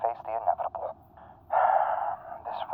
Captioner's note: Gem exhales heavily